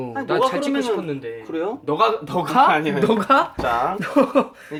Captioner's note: speaking informally